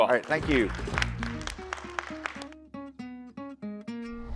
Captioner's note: applause